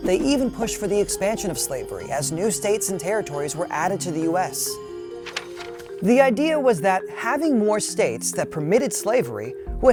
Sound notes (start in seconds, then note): 5.1 paper rustles